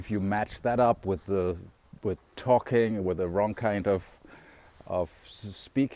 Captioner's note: talking